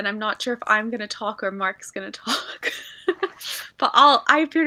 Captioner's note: laugh